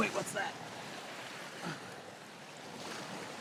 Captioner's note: water splashing